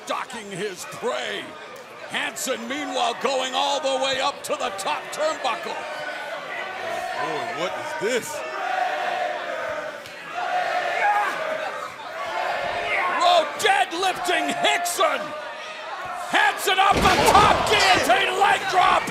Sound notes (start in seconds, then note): 9.2 crowd cheering